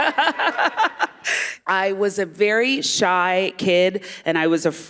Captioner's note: laughter